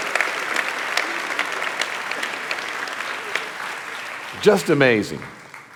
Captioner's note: audience applauding